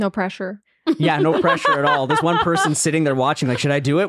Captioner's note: laughing